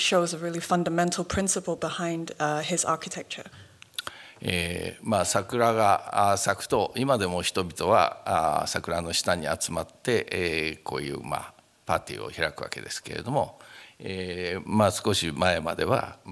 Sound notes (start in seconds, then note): 4.3 speaking japanese